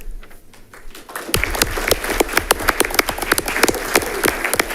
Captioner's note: audience clapping